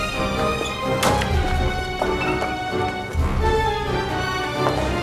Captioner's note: door bangs